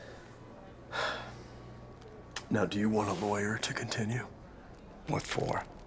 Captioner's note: sighs